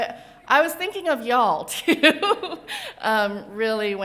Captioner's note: laughs